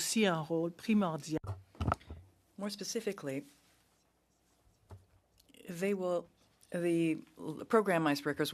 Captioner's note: speaking French